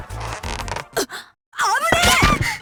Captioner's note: gasp; panicked cry